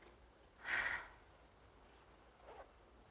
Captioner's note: sighs